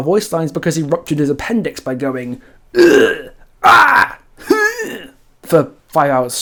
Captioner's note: eughhh, arrrgh, hrrrgh